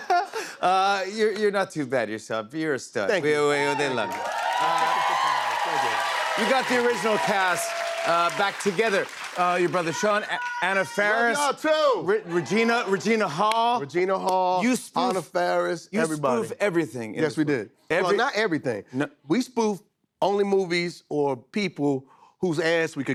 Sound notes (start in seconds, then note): 4.0 cheers and applause